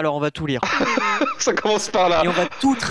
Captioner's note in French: rire